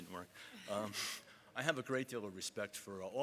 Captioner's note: audience laughs